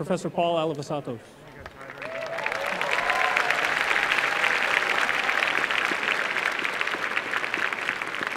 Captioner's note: applause